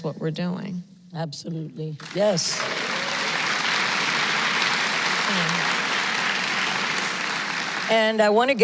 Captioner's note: applause